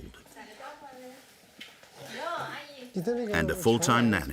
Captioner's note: both speaking foreign language